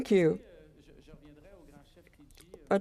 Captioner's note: speaking French